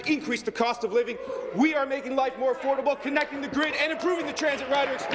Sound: applause

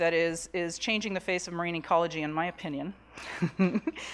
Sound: laughing

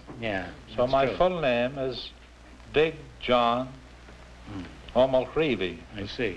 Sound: speaking gaelic

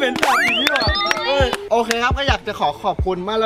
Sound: laughs

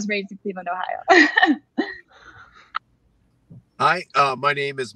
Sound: laughs

